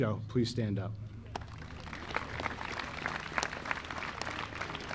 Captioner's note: audience applauding